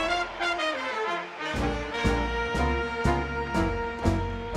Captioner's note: applause; cheering